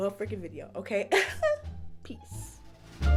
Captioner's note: chuckle